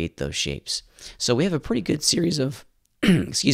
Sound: clears throat

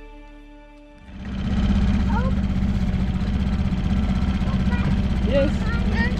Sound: engine Rumbling

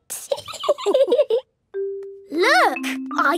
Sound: laughing

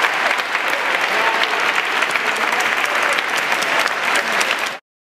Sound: cheering and clapping

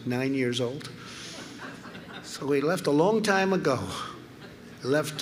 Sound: laughter

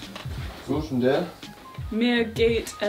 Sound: speaking in foreign language

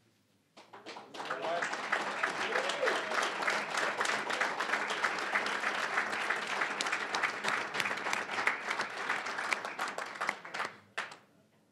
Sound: applause

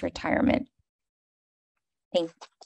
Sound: silence

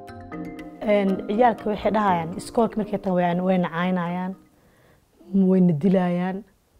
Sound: woman speaking in Somali

